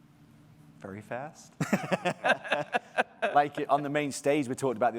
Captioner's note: both chuckle